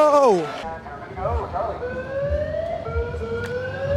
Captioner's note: siren